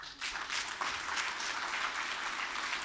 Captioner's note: audience applauding